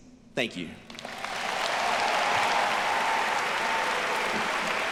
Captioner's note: audience applauding